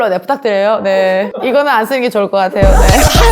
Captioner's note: laugh